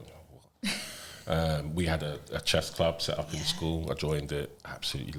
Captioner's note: laughter